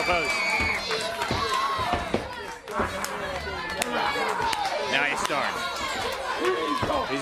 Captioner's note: crowd chatter